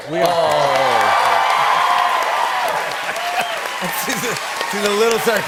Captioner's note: cheers and applause